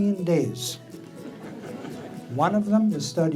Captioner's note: audience laughing